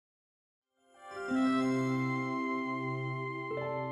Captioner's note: chimes